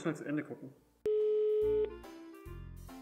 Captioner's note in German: Telefongeräusche